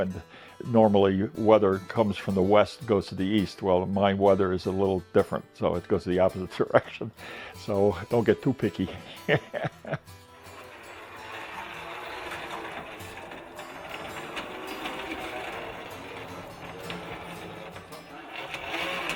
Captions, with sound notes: Normally weather comes from the west, goes to the east. Well, my weather is a little different, so it goes in the opposite direction. So, don't get too picky. (wheels whirring)